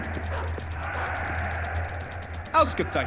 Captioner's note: chanting; speaking german